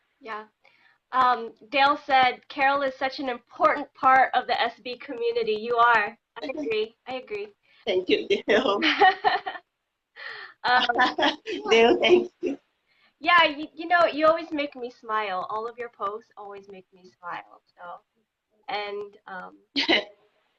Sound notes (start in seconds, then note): 10.6 laughing